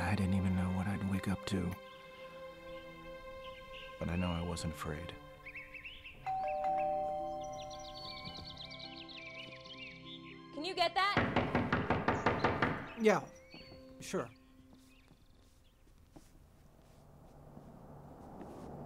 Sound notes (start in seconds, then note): 6.2 doorbell rings; 8.1 birds tweet; 11.2 pounding